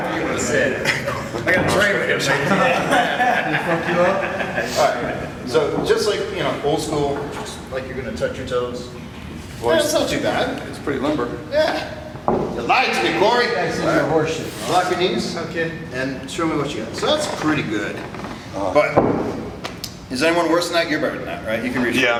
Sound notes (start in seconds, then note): 2.2 laughs; 4.9 chuckles